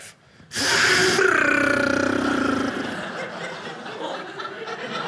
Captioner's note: imitating knife flying